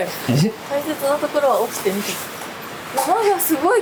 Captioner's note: laughs